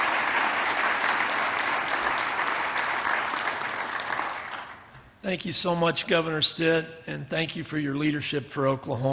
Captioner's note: applause